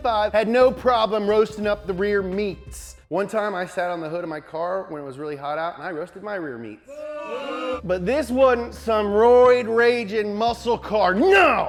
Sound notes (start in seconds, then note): 6.9 audience boos